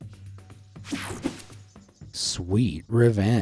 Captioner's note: screen whooshing